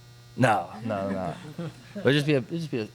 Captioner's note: laughter